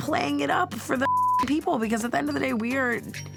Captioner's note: beep